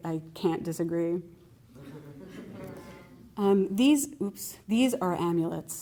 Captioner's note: laughter